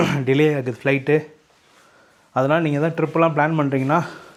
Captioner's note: to clear the throat